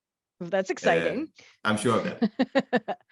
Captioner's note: laughs